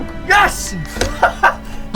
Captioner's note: Colin laughs